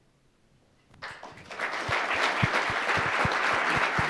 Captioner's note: applause